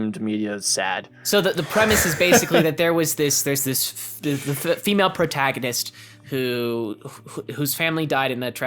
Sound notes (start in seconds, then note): 1.3 laughs